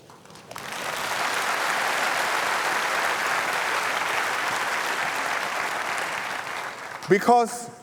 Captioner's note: applause